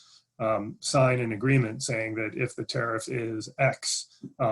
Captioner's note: glitch interferes with audio